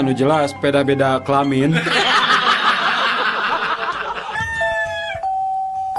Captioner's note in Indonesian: tertawa